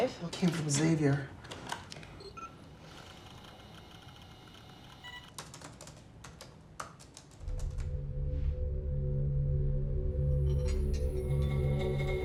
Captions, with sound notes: IT ALL CAME FROM XAVIER. ( COMPUTER BEEPS )